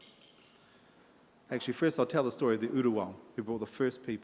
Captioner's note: in Maori